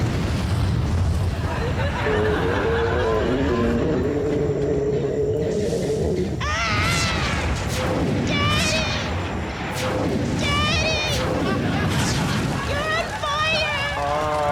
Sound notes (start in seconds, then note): 2.0 dinosaur roars; 6.3 screams